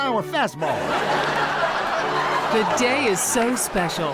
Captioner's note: audience laughs